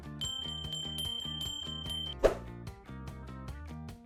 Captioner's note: bells chiming